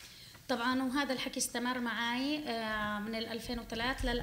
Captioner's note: speaking arabic